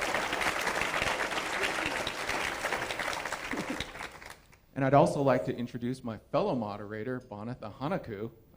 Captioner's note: applause